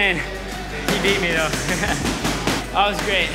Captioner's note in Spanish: Risas